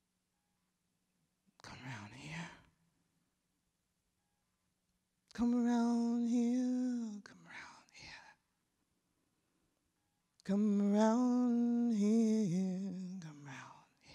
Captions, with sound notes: [whispered] come round here. [singing] Come around here. [whispered] Come around here. [singing] come round here [whispered] come round here